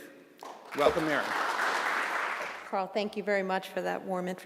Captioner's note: applause